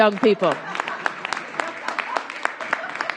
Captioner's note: applause